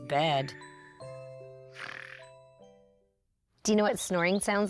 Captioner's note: snoring